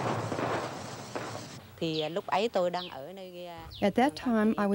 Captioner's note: speaking Vietnamese